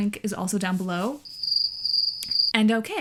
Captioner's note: cricket sounds